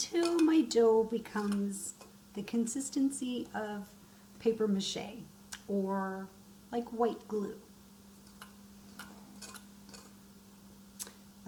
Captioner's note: stirring